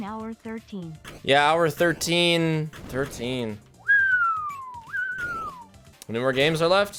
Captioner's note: whistles